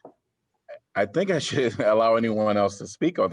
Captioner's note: laughter